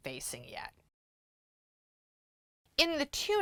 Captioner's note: no Sound Present